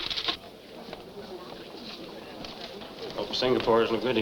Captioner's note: crowd chattering